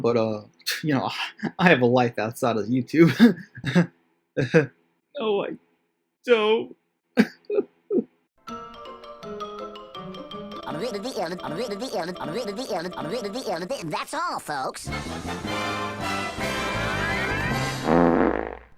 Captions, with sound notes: But uh... you know I have a life outside of YouTube. *lying laughter* No I don't... *bitch sobs* I honestly don't know what's going on here...